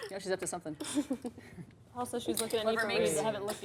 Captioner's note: laughs